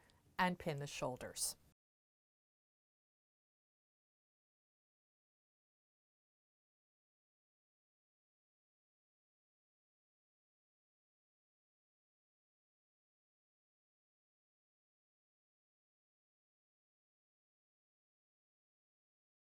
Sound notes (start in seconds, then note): 1.7 no Sound Present